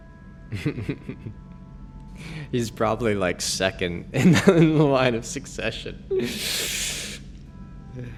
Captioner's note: laughs